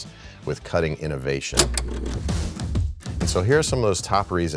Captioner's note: energetic rock music; film clacking